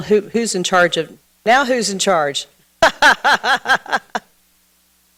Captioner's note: laughs